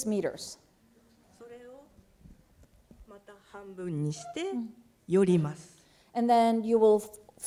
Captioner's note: speaking japanese